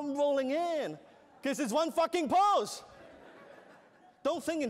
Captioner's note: laughter